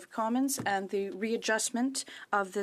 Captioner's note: speaking French